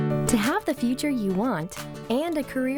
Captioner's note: voiceover